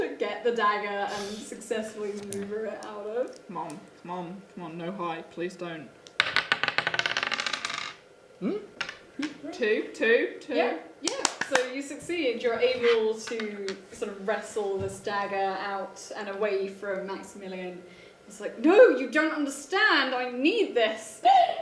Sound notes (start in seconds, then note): 6.3 tapping